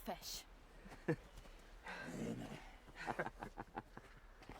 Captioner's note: men laugh